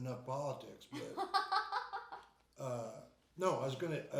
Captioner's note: laughing